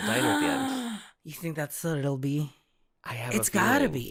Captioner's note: gasp